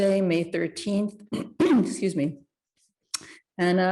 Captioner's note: clears throat